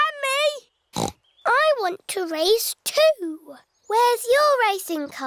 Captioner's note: snorts